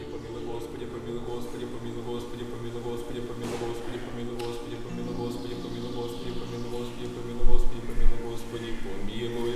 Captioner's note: prayer in Church Slavonic